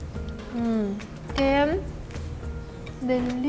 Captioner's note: speaking Spanish